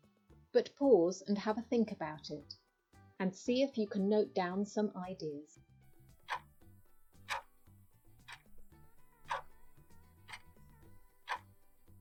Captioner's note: clock ticking